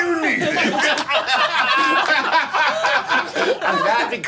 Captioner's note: group laughing